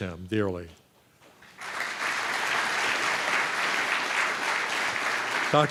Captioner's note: applause